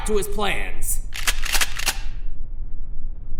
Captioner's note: shotguns cocking